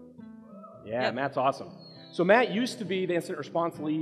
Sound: audience member shouts

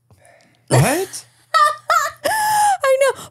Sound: laughing

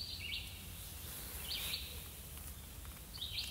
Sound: birds tweet

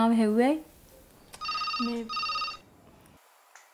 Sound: cell phone ringing

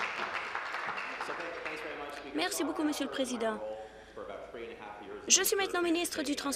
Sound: applause

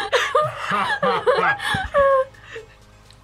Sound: laughs

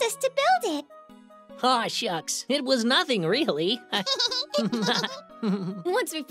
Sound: laughs

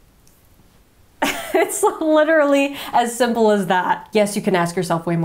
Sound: laughing

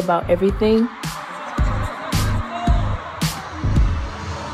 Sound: crowd cheering

